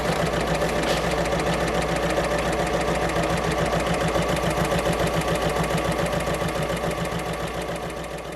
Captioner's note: sewing Machine Sounds